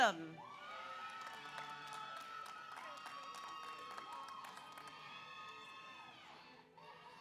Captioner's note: audience cheers; audience applauds